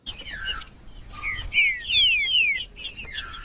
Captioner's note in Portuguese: trinca ferro cantando